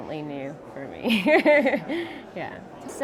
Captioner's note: laughs